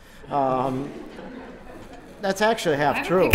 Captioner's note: laughter